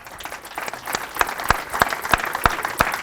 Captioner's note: applause